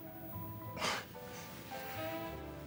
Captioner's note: chuckles